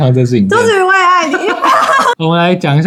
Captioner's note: laughs